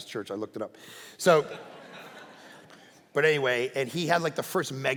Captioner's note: congregation laughing